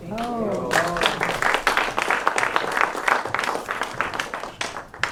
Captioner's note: applause